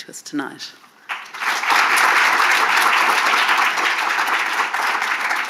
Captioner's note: audience clapping